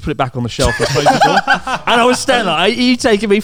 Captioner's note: laughing